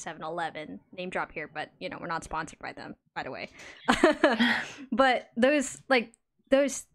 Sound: laughs

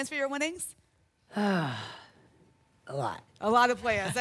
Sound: audibly exhales

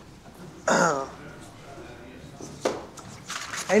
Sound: clears throat

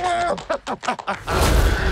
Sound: clapping

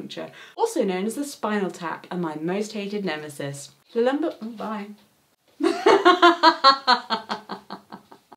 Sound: laughs

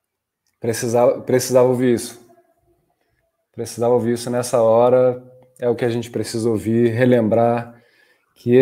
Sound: speaking in Portuguese

